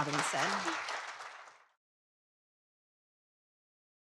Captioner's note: audience applauds